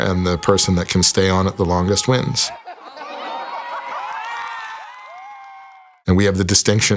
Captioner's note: audience cheering